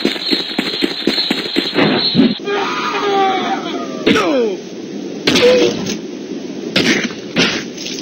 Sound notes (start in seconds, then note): 2.4 screaming